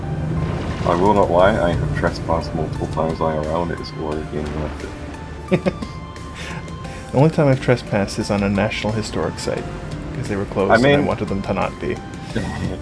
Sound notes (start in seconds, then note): 5.4 chuckles